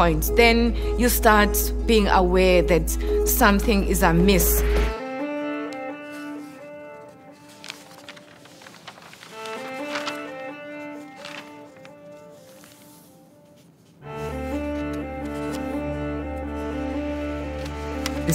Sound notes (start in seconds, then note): 5.3 pensive music; 5.7 paper rustling; 14.2 pensive music continues